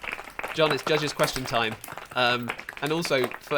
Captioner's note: applause